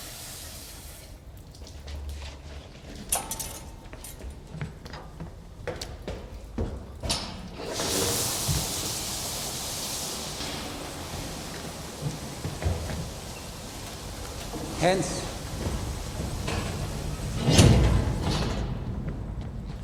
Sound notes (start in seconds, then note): 6.6 machine steam sound